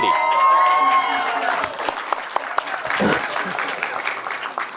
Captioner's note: crowd cheering & clapping